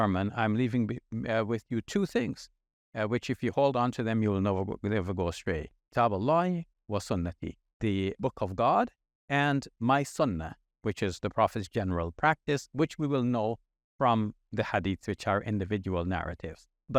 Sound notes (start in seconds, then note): 5.8 speaking in Arabic